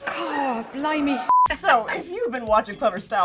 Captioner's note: beeping